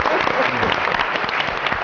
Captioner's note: applause